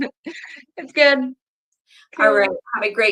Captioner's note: laughs